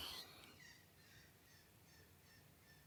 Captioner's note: 4AM seagulls squawking outside